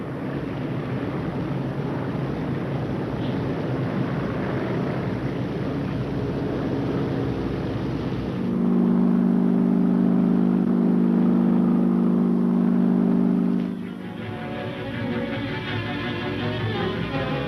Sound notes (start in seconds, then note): 0.3 engines droning; 8.7 engine droning; 13.6 dramatic music